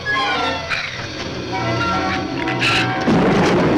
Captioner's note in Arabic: يزمجر الزبابة; زئير الزبابة; يُصفق الرعد